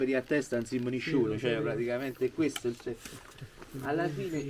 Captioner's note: speaks in dialect